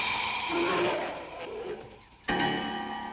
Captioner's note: growling